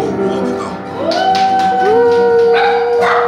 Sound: family cheers in the background

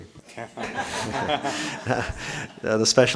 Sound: audience laughing

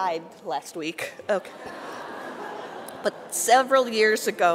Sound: audience laughing

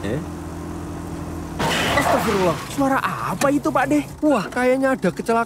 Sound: crashing Sound

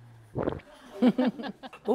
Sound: gulp

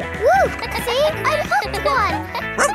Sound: kids laughing

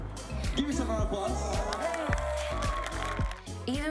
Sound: cheers and applause

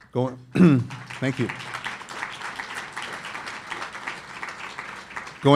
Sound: audience applauding

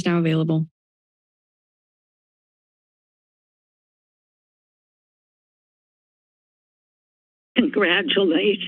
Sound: silence

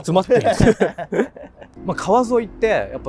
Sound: laughing

